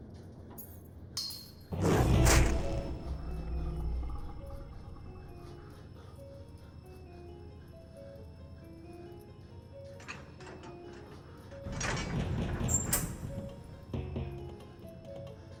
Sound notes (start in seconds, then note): 1.7 growls; 1.7 dramatic music